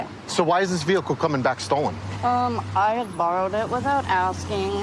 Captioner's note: none